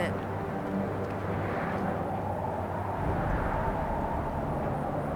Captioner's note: wind blowing